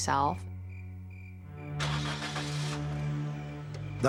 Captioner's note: engine starts